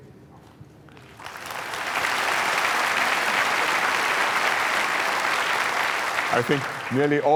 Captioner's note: applause